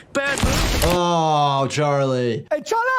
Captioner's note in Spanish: golpes de árboles